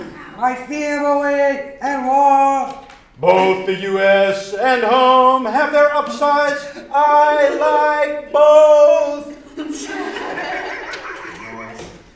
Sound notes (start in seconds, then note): 9.4 laughter